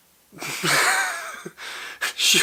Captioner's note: sniggering